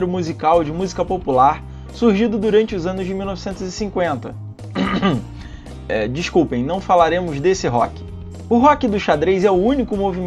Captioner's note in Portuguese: pigarro